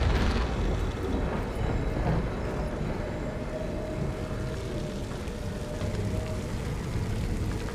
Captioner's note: thunder claps; wind howling